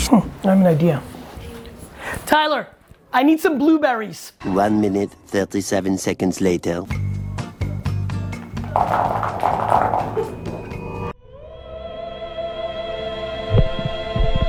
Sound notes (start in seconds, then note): 4.3 electronic Voice; 7.4 groovy music; 8.3 blueberries thudding; 11.5 opera singing